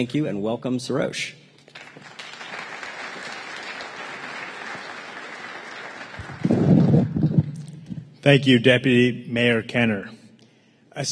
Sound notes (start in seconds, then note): 5.1 applause